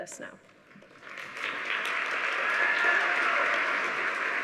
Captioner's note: audience applauding